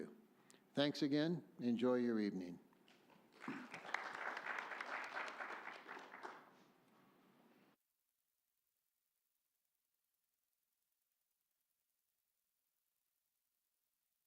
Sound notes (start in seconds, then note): 2.9 audience Clapping